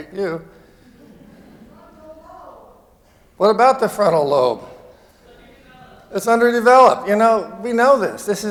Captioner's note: off microphone